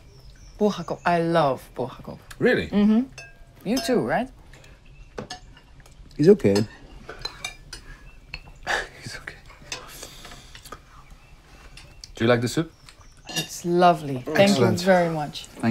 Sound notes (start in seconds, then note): 8.6 chuckles